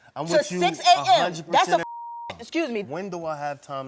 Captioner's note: beep